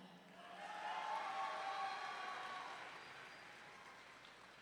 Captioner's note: audience cheering